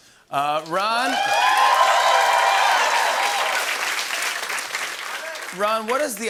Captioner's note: cheers and applause